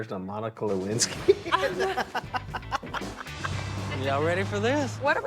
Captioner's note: Willie laughs